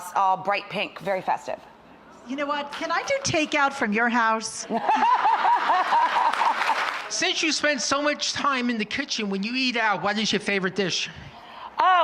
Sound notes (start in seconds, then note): 4.6 Rachel laughs; 5.3 audience applauds